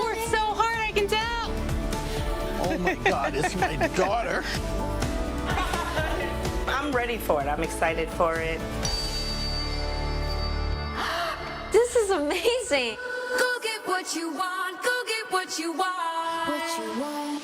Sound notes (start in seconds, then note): 5.4 people laughing; 8.9 tuning fork chimes; 13.3 upbeat music